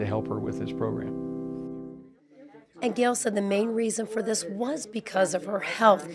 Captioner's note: background talk